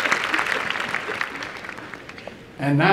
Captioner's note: applause